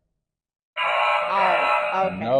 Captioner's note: error sound effect